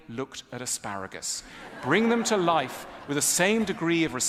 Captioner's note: ضحك